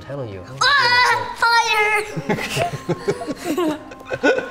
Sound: all laugh

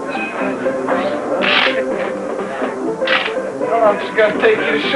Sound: cards shuffling

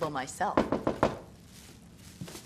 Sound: knocking on door

